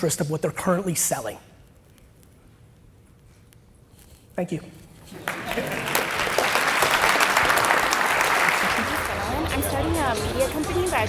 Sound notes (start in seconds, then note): 5.0 audience applauds